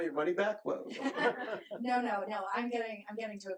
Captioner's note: laughs